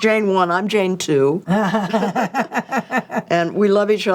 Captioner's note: both laughing